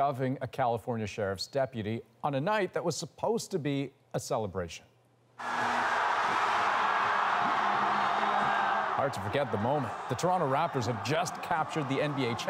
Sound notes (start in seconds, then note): 9.4 cheers and Applause